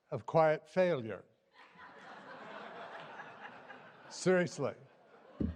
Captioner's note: laughter